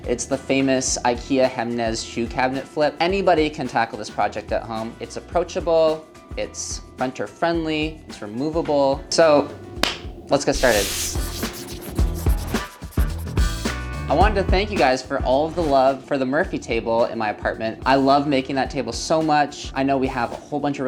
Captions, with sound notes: It's the famous IKEA Hemnes shoe cabinet flip. Anybody can tackle this project at home. It's approachable, it's renter friendly, it's removable. So, let's get started. (upbeat music) (marker swishing) I wanted to thank you guys for all of the love for the Murphy table in my apartment. I love making that table so much. I know we have a whole bunch